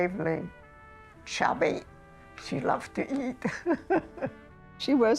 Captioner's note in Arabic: تضحك